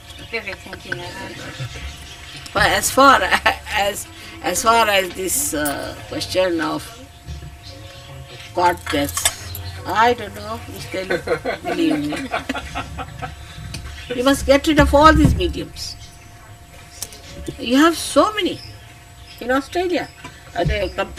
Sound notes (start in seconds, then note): 8.2 laughter